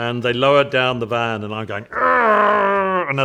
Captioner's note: growling